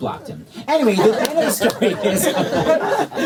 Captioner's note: laughter